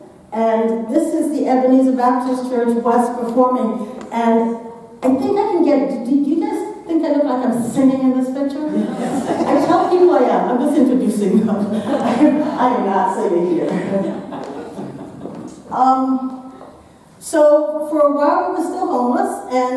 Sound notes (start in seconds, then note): 8.7 audience laughing; 13.5 audience laughing